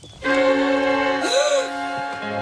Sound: gasps

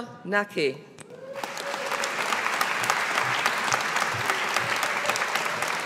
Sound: audience applauding

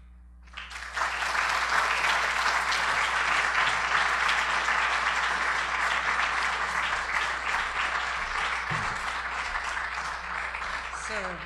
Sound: applause

